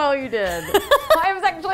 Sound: laughing

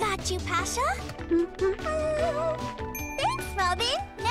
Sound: humming

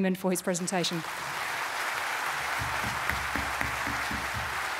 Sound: audience claps

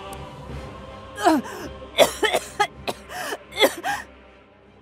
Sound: coughing

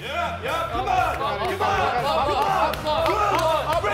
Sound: men cheering

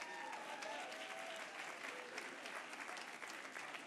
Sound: applause

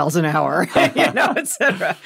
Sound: laughter

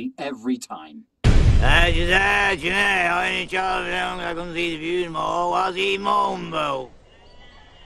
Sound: speaks in impenetrable accent

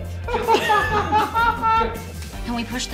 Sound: loud laughing

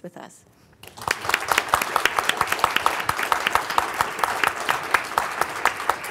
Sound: audience applauds

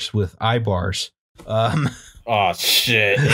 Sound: laughter

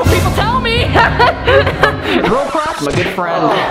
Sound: maniacal laughing; laughs; fake Crowd

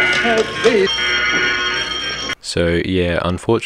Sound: alarm bell

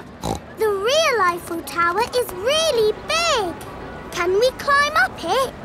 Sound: snorts

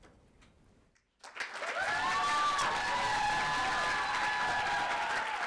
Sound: audience applauding

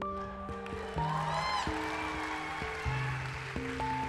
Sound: applause

